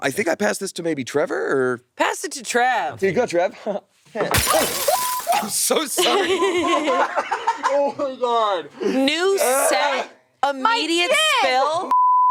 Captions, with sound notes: - I think I pass this to maybe Trevor, or? - Pass it to Trev. - There you go, Trev. (glass smashing) I'm so sorry. (all laughing) - Oh my God. - New set, immediate spell. - My gin!